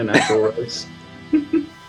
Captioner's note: laughs